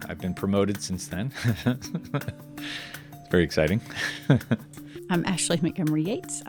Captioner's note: laughs